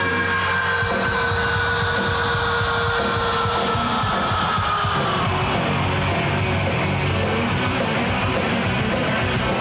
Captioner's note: screaming